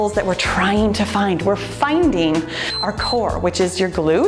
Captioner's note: timer beeps